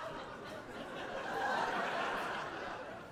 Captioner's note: audience laughing